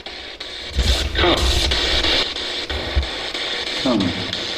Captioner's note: static buzzing